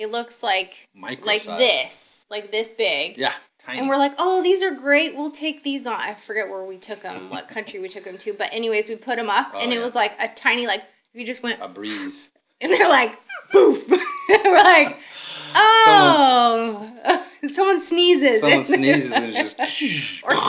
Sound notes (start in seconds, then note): 13.1 thudding noise